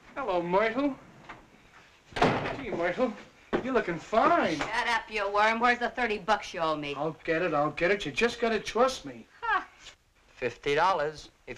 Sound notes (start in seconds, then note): none